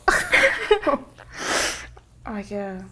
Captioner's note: sniffling